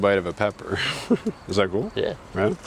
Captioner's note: both laughing